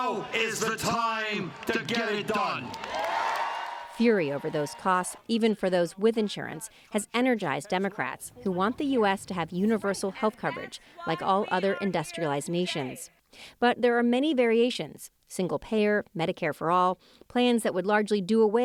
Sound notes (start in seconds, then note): 2.9 cheering and applause